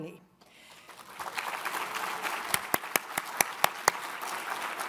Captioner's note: all applaud